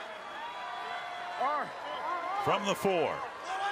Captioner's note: cheers